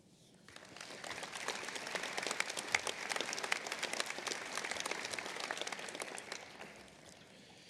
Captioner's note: applause